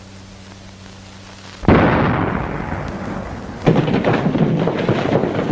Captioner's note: explosion